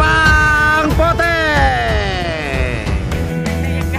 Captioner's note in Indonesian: chopper